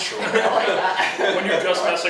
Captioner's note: laughs